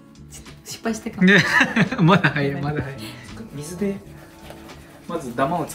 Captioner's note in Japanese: 笑い